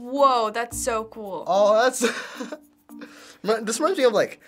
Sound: chuckles

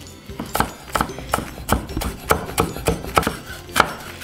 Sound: chopping

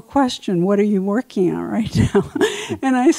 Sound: chuckles

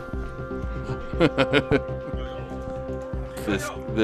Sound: laughing

